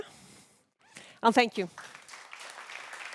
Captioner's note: applause